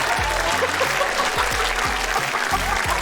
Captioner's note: laughs